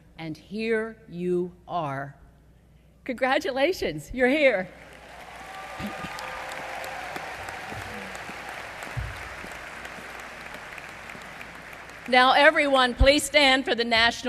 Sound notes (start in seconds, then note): 4.7 applause